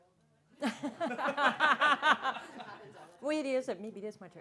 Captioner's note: audience laughing